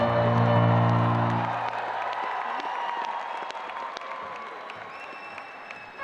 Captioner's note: audience applauding and cheering